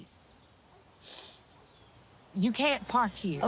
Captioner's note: sniffling